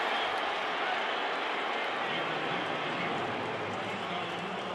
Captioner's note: cheering